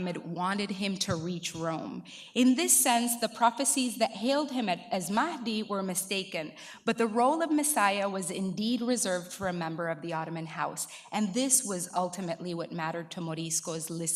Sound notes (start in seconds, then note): 5.0 speaking in foreign language